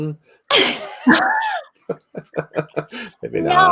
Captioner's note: everyone laughs